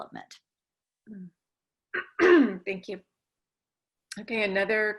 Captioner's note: cough